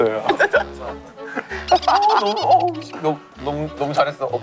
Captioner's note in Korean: 깔깔깔